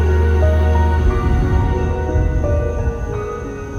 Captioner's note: thunder rumbling